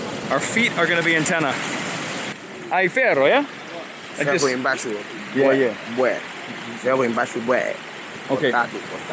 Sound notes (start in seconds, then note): 2.8 both speaking Portuguese